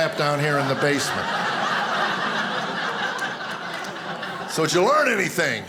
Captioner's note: audience laughing